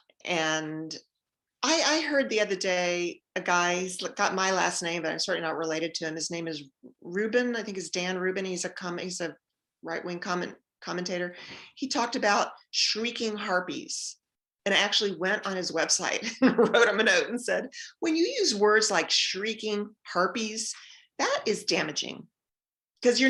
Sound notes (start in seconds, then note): 16.5 laughs